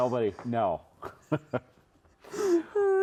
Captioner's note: laughs